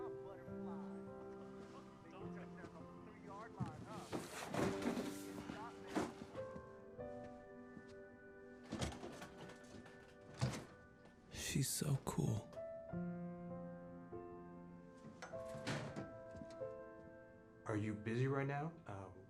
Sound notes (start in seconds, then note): 11.0 narrating